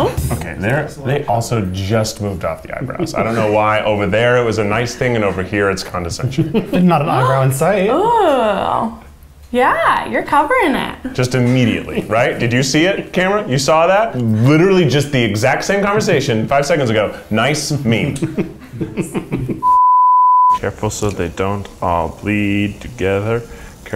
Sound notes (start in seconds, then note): 18.0 laughing; 19.6 beep